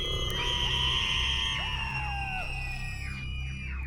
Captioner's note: voices screaming